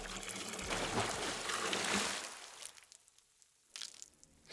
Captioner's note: dripping; splashing